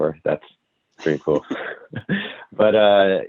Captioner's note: laughs